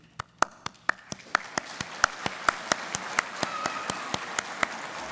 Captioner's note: audience applauding